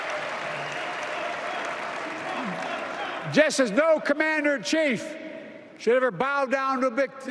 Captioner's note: applause